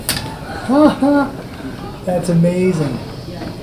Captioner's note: laughs